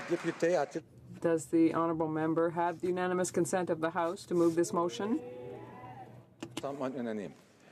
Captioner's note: applause